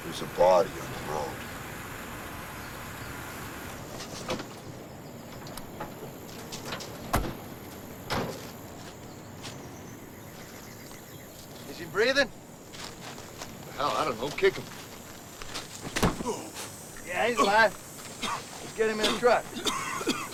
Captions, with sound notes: - There's a body on the road. - Is he breathing? - Hell, I don't know, kick him. (Callin moans) - Yeah, he's alive. Let's get him in the truck.